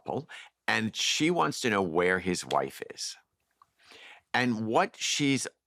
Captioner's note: none